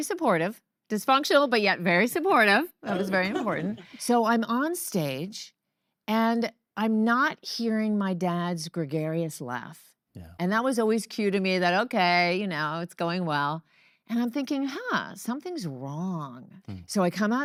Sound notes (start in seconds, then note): 2.9 audience laugh